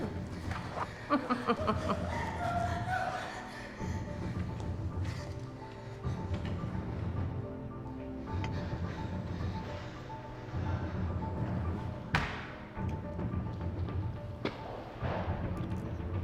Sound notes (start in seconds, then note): 0.0 chuckles; 2.9 woman gasping